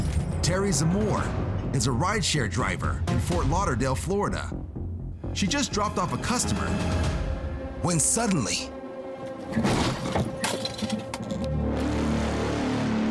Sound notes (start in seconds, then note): 9.5 thuds; 10.8 ominous music playing